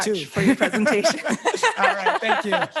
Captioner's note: laughs